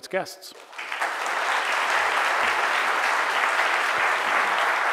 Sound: audience applauding

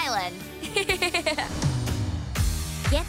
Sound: giggling

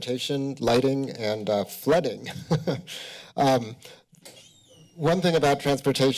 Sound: chuckles

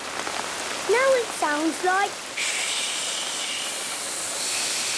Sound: heavy rain

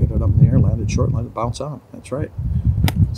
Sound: club whacks

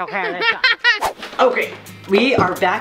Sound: laughing

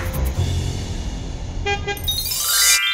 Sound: bus horn

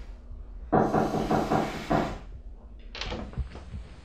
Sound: knocking

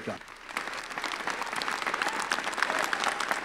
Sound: applause

